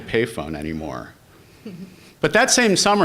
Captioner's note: laughter